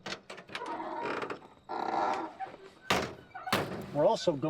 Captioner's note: car door creaks